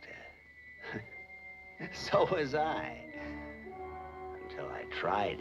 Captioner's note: laughs